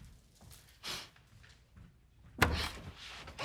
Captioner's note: sniffs